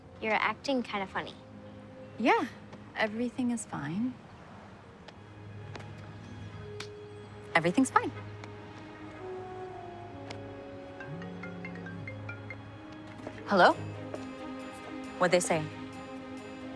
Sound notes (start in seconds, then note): 10.8 phone ringing